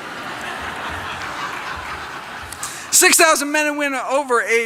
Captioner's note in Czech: Smích